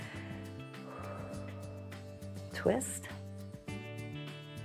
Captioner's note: exhales